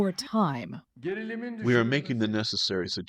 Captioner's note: through translator